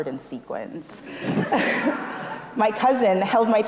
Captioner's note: laughs